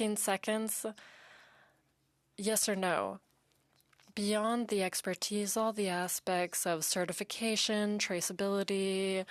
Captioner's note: speaking French